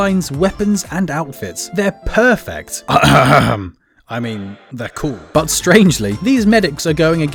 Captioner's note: coughing, with echo